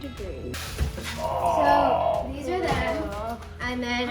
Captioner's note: grunting